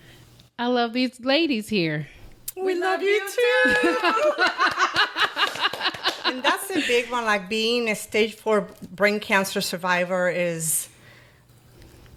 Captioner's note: laughter